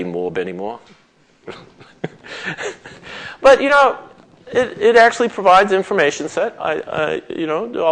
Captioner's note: chuckles